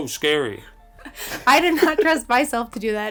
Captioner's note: laughing